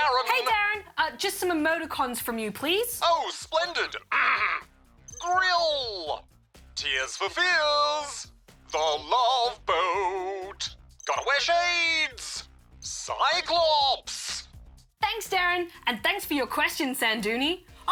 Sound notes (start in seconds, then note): 4.1 clears throat